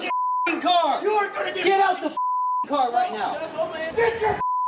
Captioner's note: beep; beep; beep